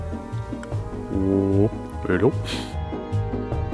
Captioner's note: deep voice